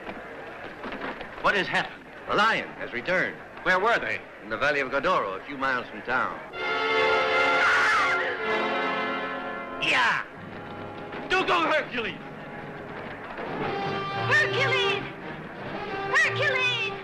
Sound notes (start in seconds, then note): 6.5 intense orchestral music; 7.3 shrieking